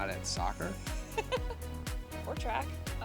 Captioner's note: laughter